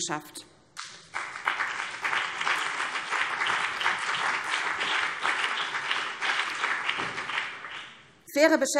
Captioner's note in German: Beifall BÜNDNIS 90/DIE GRÜNEN und vereinzelt CDU